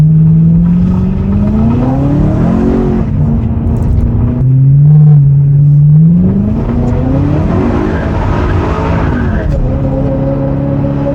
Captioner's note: engine revs